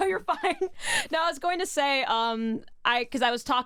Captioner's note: laughs